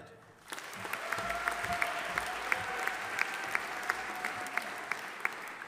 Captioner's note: audience applauding